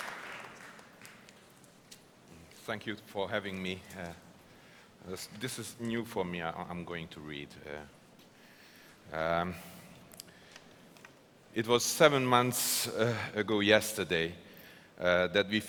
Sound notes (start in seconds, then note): 0.0 applause